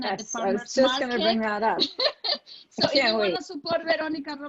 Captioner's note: laughing